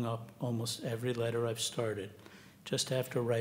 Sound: none

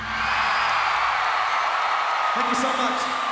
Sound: crowd cheers

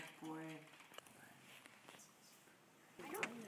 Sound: key typing; bird chirping

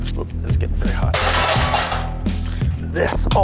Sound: metal clangs

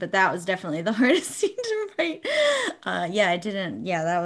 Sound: none

